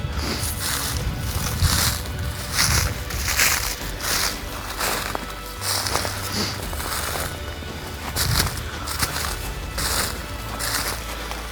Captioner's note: sound of walking